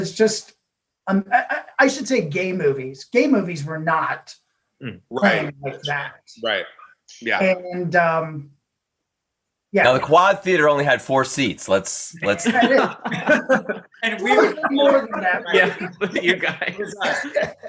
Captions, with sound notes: Was just, I should say gay movies. Gay movies were not playing like that. Now the Quad Theater only had four seats, let's... (group laughing) And we were more than that. You guys.